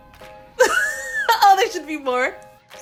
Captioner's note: laughs